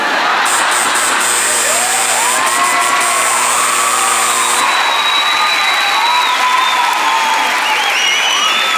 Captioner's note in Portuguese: campainha e aplausos